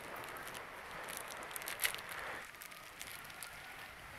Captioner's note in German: Knistern von Verpackungspapier